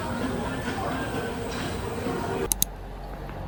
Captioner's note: thump thump